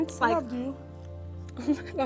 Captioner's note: quietly